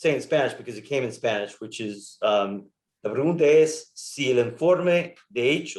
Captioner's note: speaks in Spanish